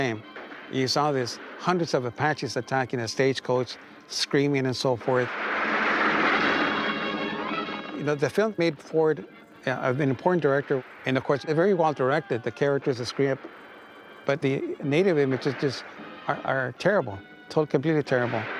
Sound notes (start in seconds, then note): 5.0 gunfire blasting; 5.2 dramatic music